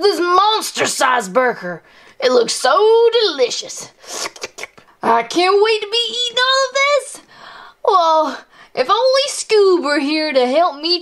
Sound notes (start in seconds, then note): 4.0 slurping